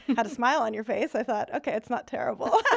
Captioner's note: laughing